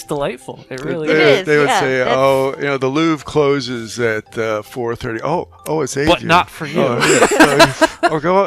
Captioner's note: laughing; laughing